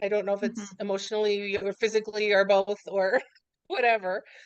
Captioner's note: laughs